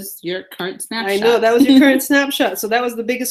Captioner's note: laughs